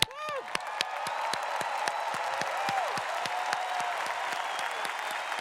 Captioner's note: clapping and cheering